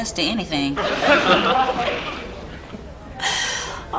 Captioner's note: audience laughs